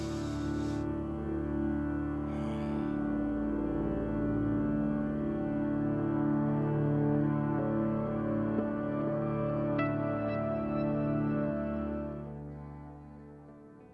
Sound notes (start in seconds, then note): 0.0 Ghost sniffs; 2.2 ghost sighs; 10.5 soft music continues